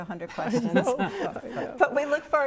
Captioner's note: laughs